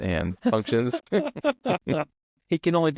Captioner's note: both laughing